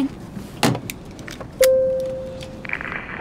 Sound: ding

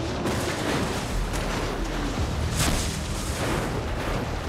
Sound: metal crunching

